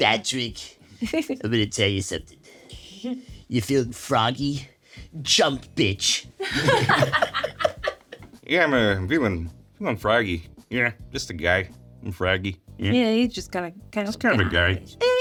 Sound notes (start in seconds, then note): 1.1 Sarah chuckles; 6.4 all laughing